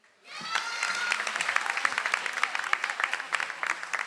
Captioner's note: audience applauds